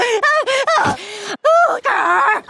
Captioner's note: gasping; gasp